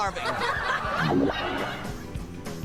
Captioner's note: studio audience laughing